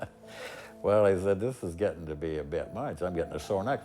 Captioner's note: chuckles